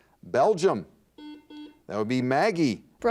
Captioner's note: buzzer dings